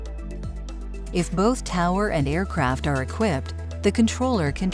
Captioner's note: voiceover